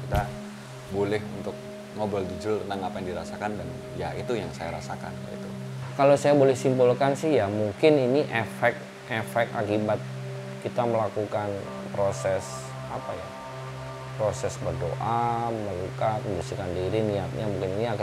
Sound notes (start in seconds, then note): none